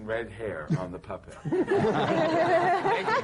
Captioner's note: laughter